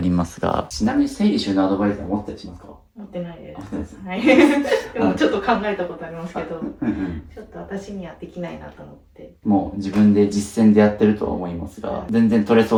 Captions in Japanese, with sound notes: 持ってないです。です。[笑い] はい。 でもちょっと考えたことありますけどうん。うん。 [咳払い] ちょっと私にはできないなと思って、 もう自分で実践でやってるとは思いますが、全然取れそうなくらいしっかりされてあっま、あとはさっきのとこによく見るとこういう外箱があったり、ここに資材なんか包方用とかなといったものが、ま、色々雑にごるという感じ。